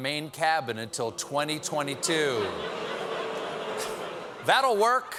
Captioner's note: booing